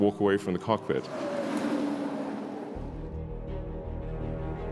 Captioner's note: car engine revving